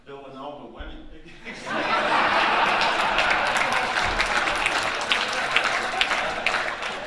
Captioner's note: audience laughing and applauding